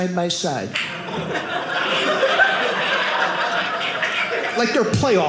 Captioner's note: audience laughing